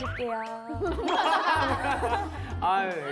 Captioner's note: cracking up at wit